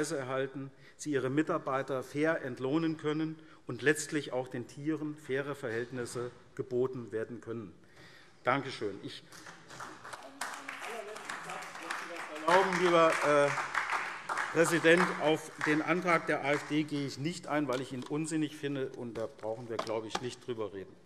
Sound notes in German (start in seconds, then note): 9.1 Beifall SPD